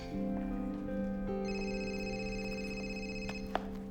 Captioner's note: cell phone rings